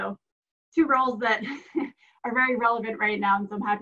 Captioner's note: laughs